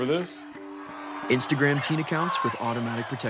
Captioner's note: crowd cheering